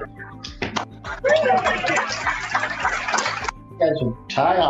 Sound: cheering

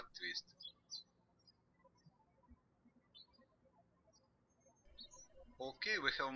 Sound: birds chirping

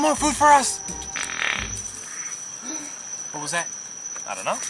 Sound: farting noises

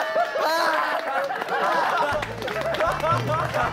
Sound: bursts into applause and laughter

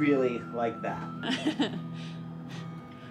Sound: laughs

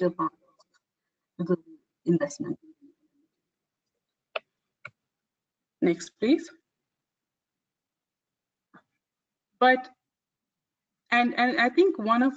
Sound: audio static

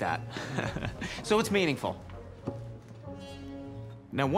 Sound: laughs

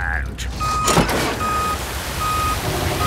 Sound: beeping

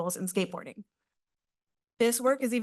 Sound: pause

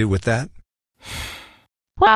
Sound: sighs

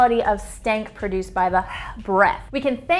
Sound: breathes forcefully

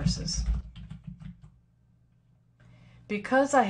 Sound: typing

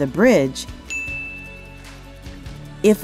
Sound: bell Rings

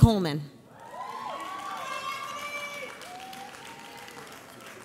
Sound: audience cheers

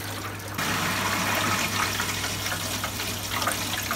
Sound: water running

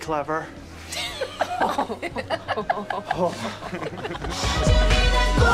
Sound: laughter

